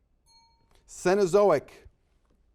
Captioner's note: bell rings